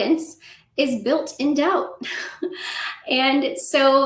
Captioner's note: laughter